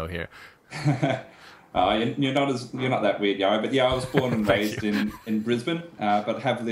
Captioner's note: laughs